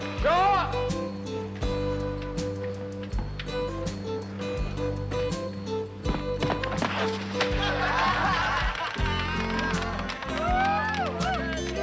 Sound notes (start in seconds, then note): 7.3 players laughing